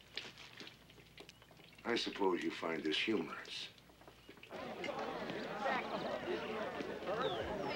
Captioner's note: indistinct conversations